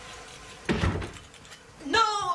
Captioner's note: door closes